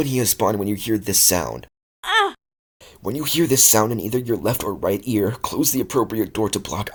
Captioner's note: moaning